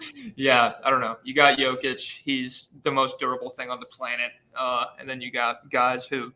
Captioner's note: laughs